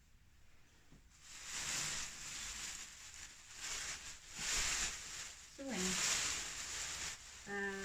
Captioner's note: rustling